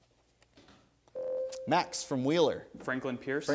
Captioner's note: ding